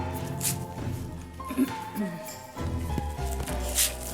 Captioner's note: clears throat softly